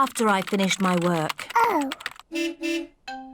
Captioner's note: car horn beeps